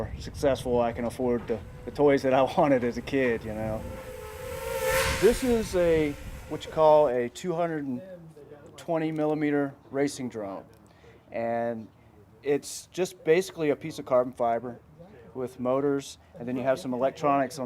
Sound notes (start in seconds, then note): 2.3 whizzing propellers